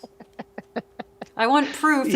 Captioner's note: laughs